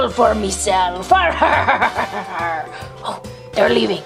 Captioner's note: laughs